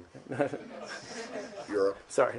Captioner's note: laughter